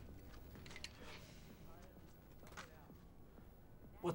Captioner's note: sighs